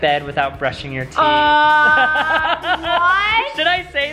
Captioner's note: laughing